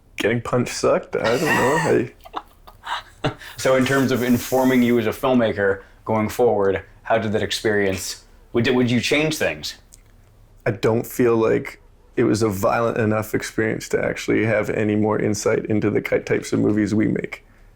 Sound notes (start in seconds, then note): 1.2 laughing